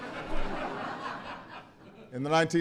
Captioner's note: laughter